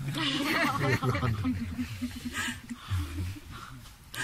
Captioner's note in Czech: smích